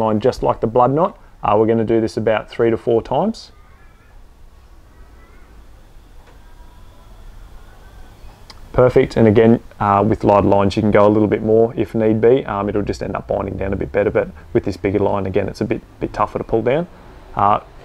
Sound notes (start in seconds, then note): 3.5 birds cawing